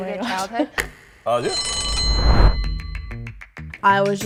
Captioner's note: bell rings